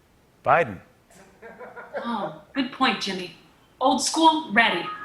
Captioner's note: laughter